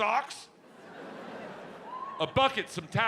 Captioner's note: audience laughs